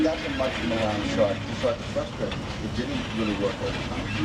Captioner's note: recording chattering